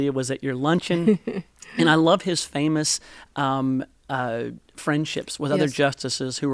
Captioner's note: laughter